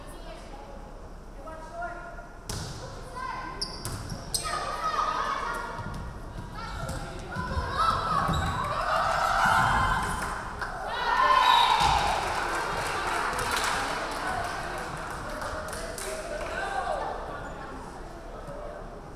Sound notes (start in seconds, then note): 11.8 referee whistling; 12.0 crowd clapping